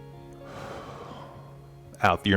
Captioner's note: exhaling